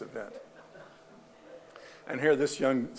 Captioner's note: audience laughing